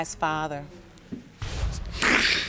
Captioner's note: sobbing